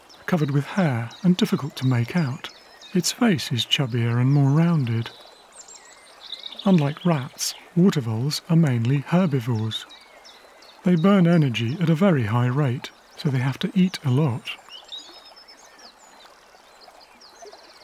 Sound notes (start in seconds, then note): none